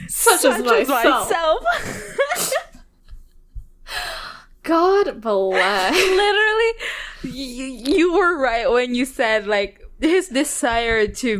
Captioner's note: both laugh